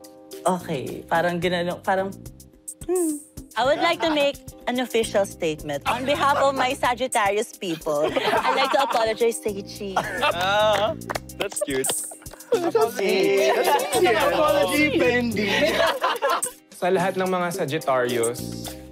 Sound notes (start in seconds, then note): 9.9 chuckling; 15.8 laughing